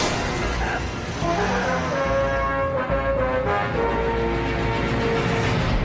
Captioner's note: glass shatters